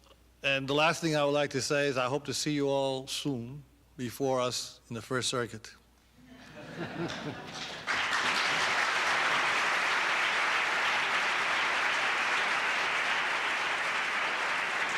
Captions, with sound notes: And the last thing I would like to say is I hope to see you all soon before us in the First Circuit. [LAUGHTER] [APPLAUSE]